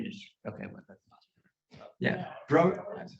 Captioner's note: faintly speaking